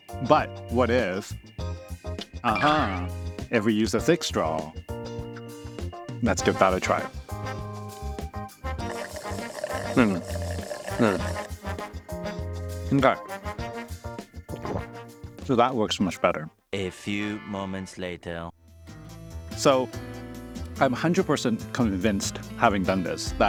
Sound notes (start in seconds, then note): 8.7 slurping